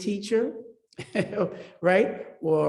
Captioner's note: laughs